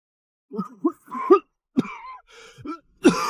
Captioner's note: cough cough cough